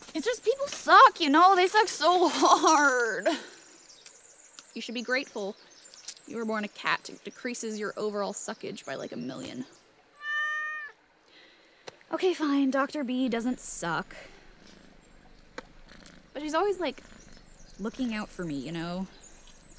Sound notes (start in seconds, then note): 10.2 meows